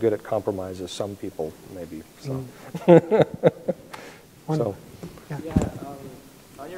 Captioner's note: laughs